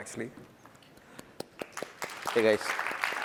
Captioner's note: applause